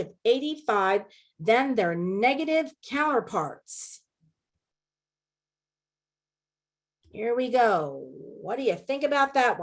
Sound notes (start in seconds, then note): 4.0 silence